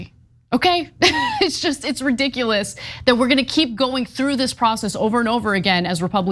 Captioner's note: laugh